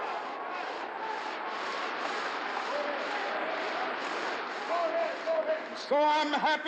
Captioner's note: shouts and applause